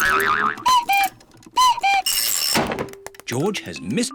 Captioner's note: clock cuckoos